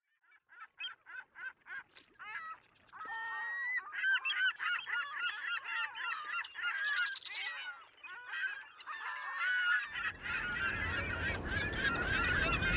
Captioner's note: seagull call sounds